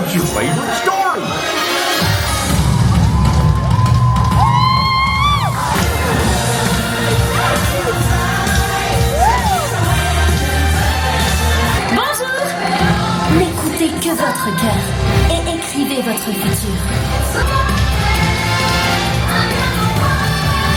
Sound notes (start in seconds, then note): 1.7 upbeat thrilling music; 6.2 upbeat music; 12.3 Moana speaking French; 12.3 upbeat music